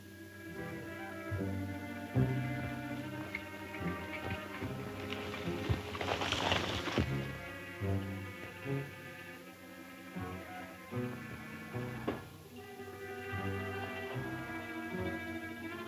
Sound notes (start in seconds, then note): 0.1 suspenseful music; 4.0 horse hoof beats